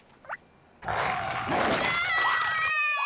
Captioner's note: growls; screams; child screams